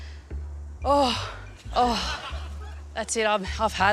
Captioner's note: sighs with exhaustion